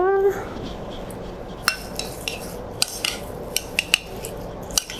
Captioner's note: stirring